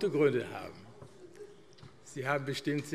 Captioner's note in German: Zurufe SPD